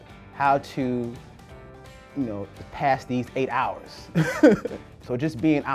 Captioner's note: laughs